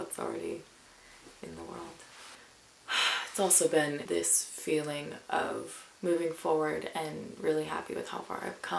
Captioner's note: sighs